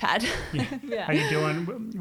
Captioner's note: giggling